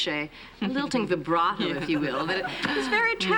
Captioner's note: speaking foreign language